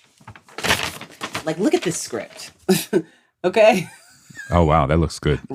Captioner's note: laughs